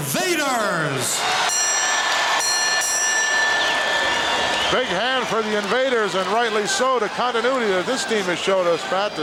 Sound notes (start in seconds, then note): 0.0 audience cheering; 1.4 bell ringing